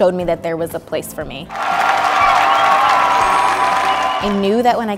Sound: cheers and applause

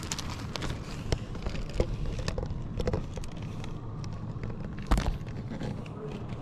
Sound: rear approaching vehicle

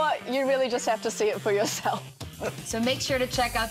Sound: laughs

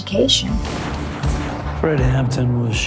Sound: gunshots ringing

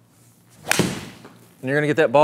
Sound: hitting ball

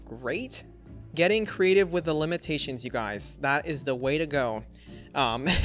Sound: laughs

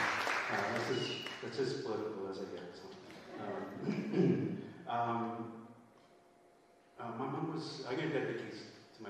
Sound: cheering and Applause

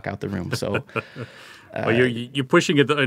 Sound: chuckling

